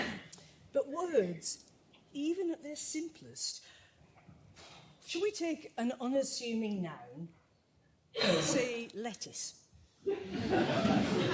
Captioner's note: laughter